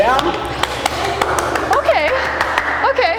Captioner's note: clapping